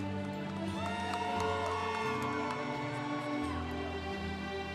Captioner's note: congregation cheering